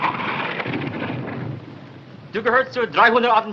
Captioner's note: interpreter speaking in german